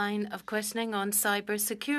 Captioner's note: speaking French